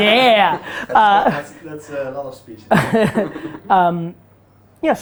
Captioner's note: group laughter